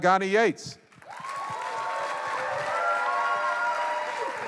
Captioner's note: applause